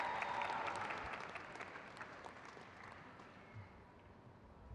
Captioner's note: crowd cheers